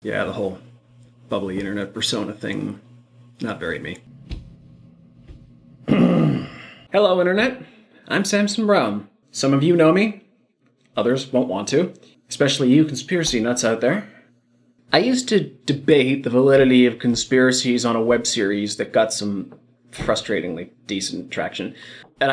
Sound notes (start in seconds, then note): 5.8 groans loudly